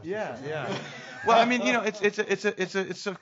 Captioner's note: laughing